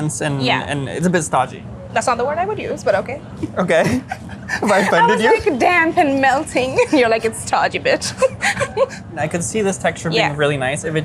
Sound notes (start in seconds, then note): 3.5 laughing; 7.9 laughing